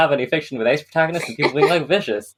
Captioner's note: laughs